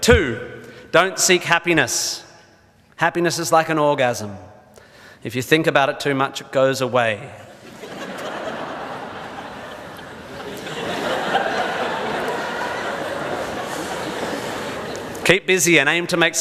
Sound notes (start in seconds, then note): 7.5 audience laughs